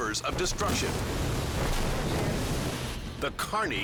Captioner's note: waterfall thundering